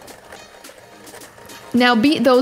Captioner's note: mixer buzzing